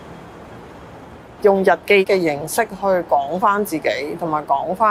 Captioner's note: Cantonese